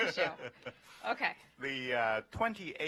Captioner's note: laughter